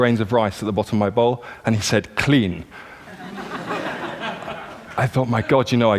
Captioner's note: laughter